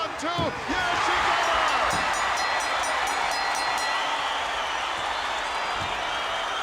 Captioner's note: bell ringing